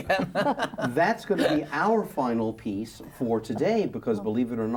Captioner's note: laughs